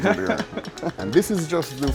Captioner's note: laughs